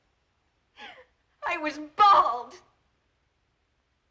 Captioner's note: crying